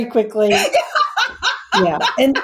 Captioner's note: laughs